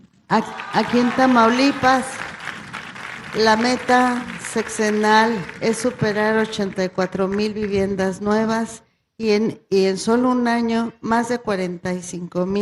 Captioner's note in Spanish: aplausos